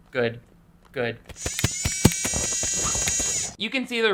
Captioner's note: camera whirring